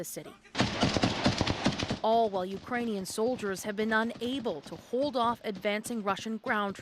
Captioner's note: gunfire